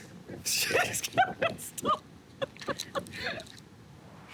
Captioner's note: laughing